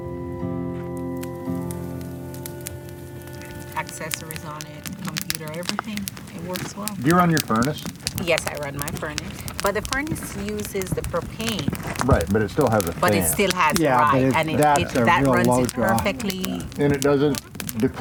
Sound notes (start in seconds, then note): 2.3 fire crackles; 4.3 background conversation about gear